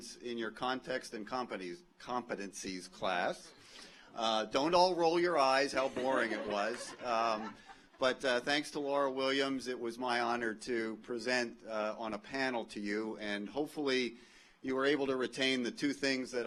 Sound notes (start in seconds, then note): 5.8 audience laughs